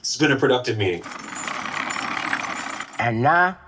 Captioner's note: chain rattling